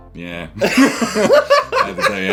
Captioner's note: laughing